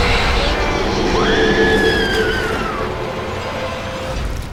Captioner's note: Mattie screams